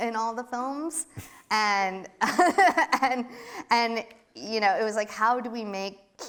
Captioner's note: laughs